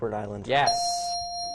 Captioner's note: ding